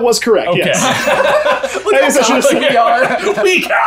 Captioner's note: laughter